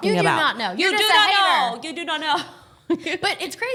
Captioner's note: yelling